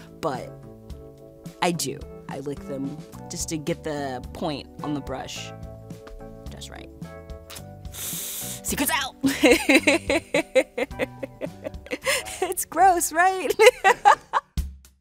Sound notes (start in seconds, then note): 9.2 laughs; 14.0 laughs; 14.7 slow jazzy music